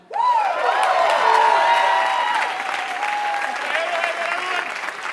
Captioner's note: applause